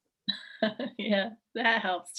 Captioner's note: laughs